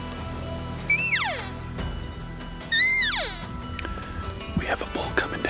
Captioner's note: elk call chirping